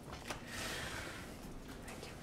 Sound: whisper

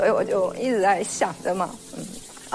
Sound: sample 4: The sound of bathing

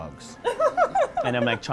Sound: laughs

